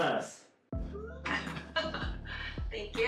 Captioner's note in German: lacht